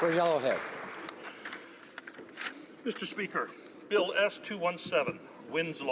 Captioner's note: applause